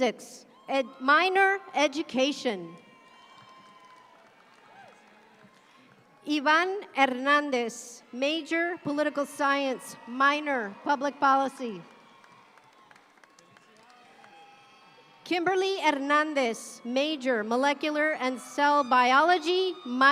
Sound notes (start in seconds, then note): 3.0 audience clapping; 11.8 audience claps